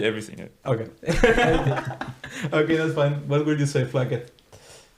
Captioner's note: laughing